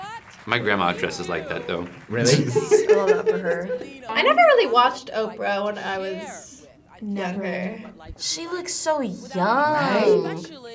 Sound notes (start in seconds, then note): 2.0 both laugh